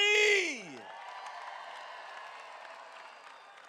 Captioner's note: crowd cheering